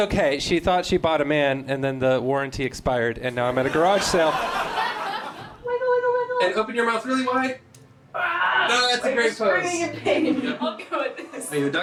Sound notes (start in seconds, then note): 5.1 crowd laughs